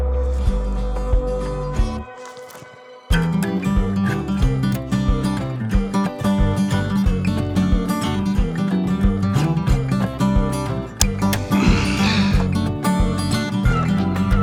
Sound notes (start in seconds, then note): 11.3 old man grunts